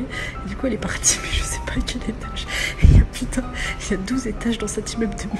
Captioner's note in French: rire